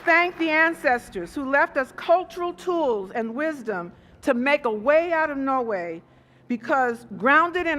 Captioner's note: applause